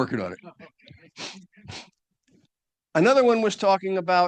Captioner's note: chuckles